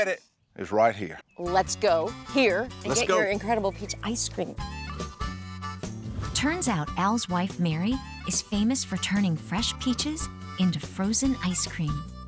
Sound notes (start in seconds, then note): none